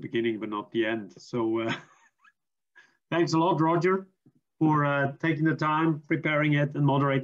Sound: chuckles

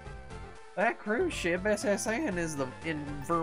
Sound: southern accent

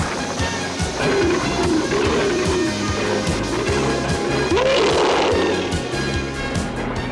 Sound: Battle Cat roars

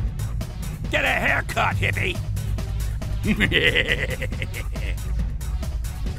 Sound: laughs

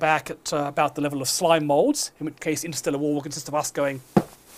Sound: stamps his foot

